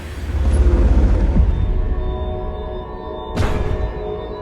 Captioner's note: industrial booming